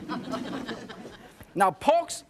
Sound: audience laughs

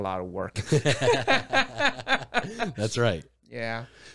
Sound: both laugh

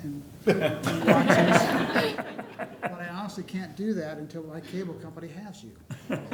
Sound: laughter; laughter

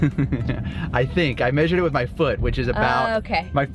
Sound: laughs

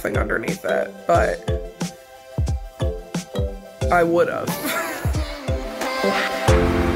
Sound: laughs; lighthearted music

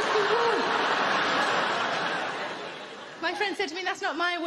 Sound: audience laughing

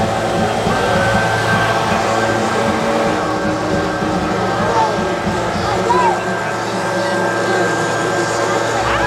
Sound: blower fans cooling engine

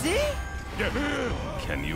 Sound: gasping

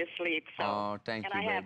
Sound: laughter

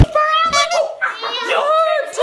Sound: drum thuds; person exclaims

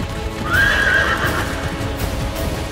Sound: horses neighing

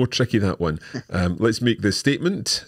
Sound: laughing

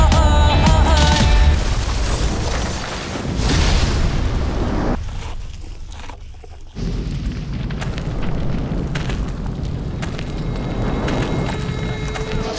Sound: building explosion

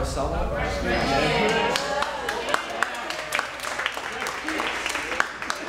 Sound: cheering and applauding

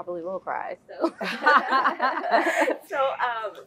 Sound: laugh

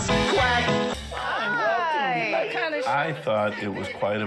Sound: people greeting each other

